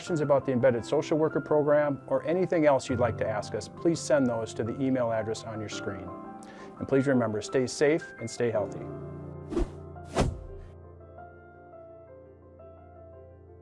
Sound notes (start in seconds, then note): 10.0 air whooshing; 10.7 gentle music